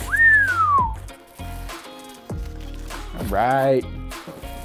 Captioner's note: whistles in amazement